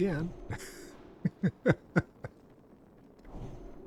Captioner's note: laughing